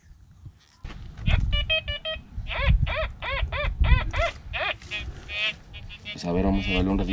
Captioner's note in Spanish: Sonidos del detector de diferentes tonos